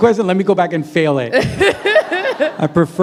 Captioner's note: laughter